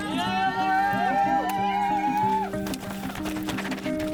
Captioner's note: cheering